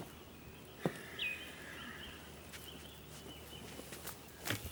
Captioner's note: Graham sighs